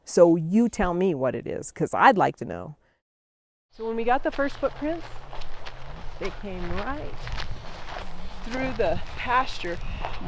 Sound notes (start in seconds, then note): none